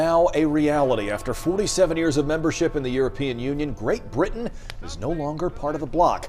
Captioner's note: bell tolls